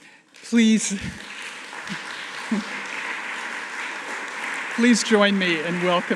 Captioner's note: audience applauding